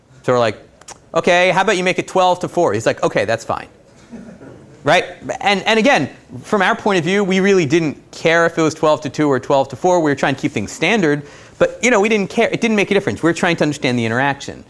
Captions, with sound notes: So we're like, okay, how about you make it 12 to 4. He's like okay, that's fine. [Laughter] Right? And, again, from our point of view, we really didn't care if it was 12 to 2 or 12 to 4, we were trying to keep things standard, but, you know, we didn't care, it didn't make a difference, we were trying to understand the interaction.